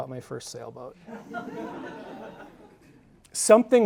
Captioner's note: audience laughing